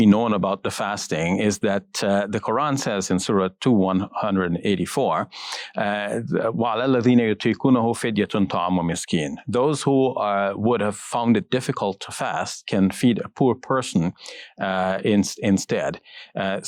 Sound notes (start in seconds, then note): 6.6 speaks in foreign language